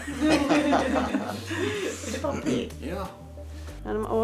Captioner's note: all chuckling